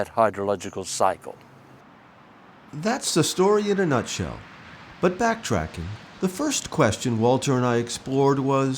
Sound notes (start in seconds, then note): 1.7 birds chirping; 2.1 insects buzzing